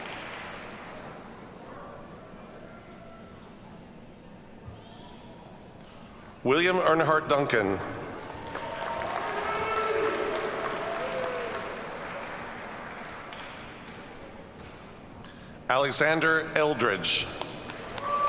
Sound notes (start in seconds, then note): 8.2 audience cheers and applauds; 17.7 audience cheers and applauds